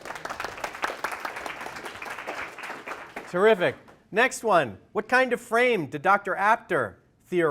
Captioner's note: applause